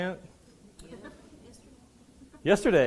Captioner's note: students laughing and murmuring